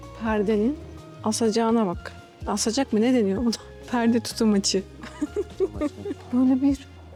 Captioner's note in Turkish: kahkaha